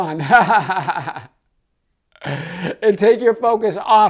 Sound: laughing

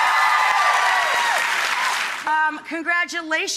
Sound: applauding and cheering

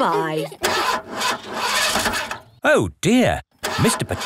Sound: engine sputtering

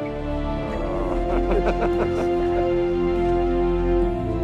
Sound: chuckles

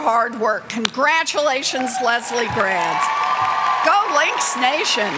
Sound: cheers

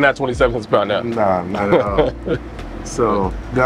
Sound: chuckles

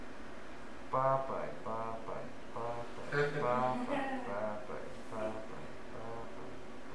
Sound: laughs

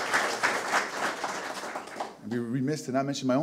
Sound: audience applause

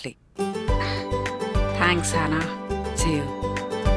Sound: gasps

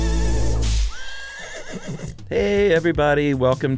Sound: whip and horse neighing

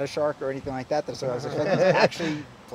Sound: laughter

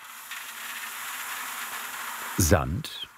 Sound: trickling noises

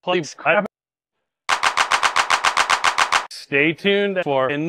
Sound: clapping

